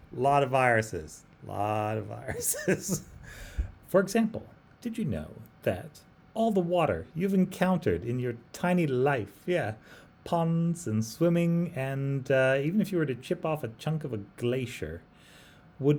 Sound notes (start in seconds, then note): 2.2 laughs